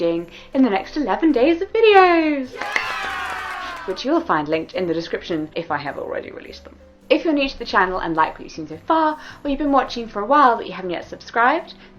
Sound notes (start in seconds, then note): 2.5 applauding and cheering sounds